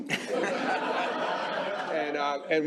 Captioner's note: laughter